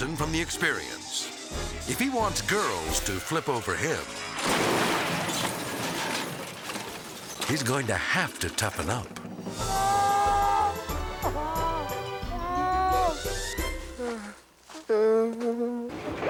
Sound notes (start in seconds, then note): 4.0 ATV crashing; 9.6 crying; 13.9 whimpering